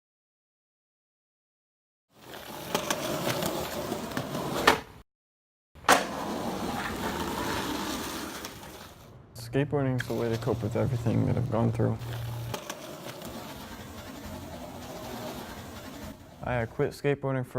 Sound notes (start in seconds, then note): 1.9 skateboard wheels rolling